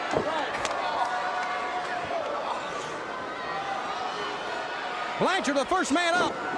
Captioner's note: crowd chatter